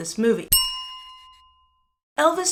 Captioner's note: bell chime